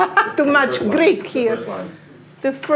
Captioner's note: laughs